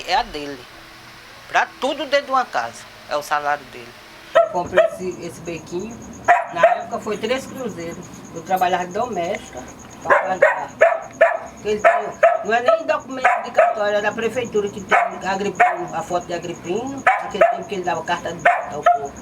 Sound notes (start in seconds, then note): 6.2 dog barks; 10.0 dog barks; 16.9 dog barks